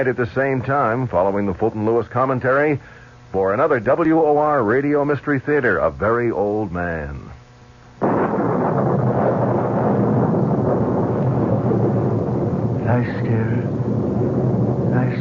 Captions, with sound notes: at the same time, following the Fulton Lewis commentary, for another WOR Radio Mystery Theater, a very old man. [thunder] I scared her. I